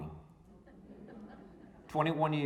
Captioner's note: audience laughing